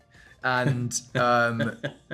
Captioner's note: Jim chuckling